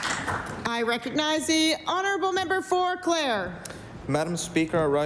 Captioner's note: applause